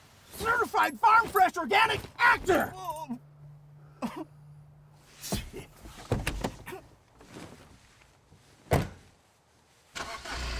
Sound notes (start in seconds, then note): 3.8 sobs weakly; 5.2 John snickers